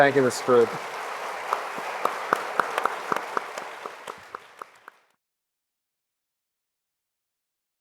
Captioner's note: audience applauding; panelists applauding